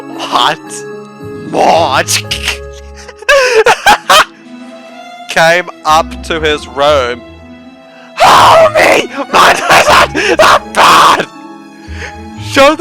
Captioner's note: laughs hysterically